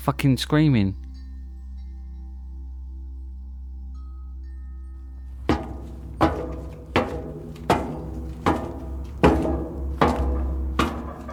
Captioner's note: metal Stomping sounds